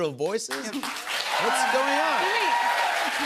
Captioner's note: cheers and applause